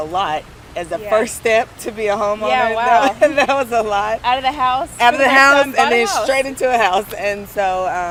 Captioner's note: laughs